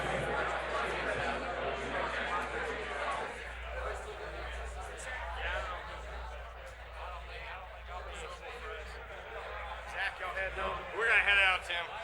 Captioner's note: applause